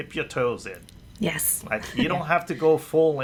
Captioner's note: laughs